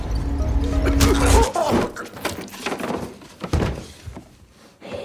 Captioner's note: sound of hit; sound of heavy breathing